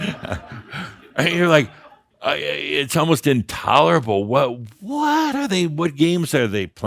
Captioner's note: chuckling